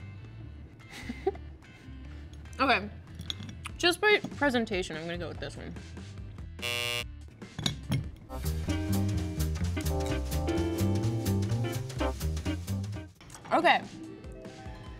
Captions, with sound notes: Okay, just by presentation, I'm gonna go with this one. (buzzer buzzes) (upbeat music) Okay.